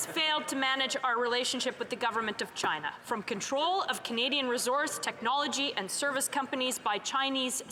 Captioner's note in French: voix de l'interprète